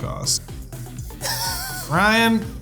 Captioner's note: laughs